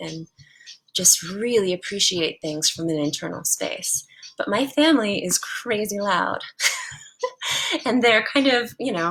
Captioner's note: laugh